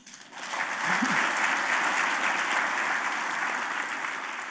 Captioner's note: audience applauding